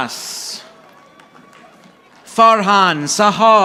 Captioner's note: audience applauding